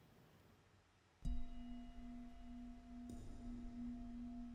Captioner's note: low humming